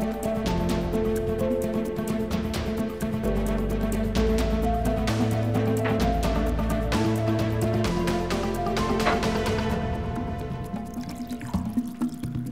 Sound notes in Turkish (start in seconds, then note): 1.2 Gerilim müziği; 9.0 Takırtılar